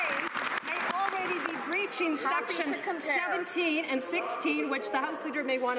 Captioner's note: some Applause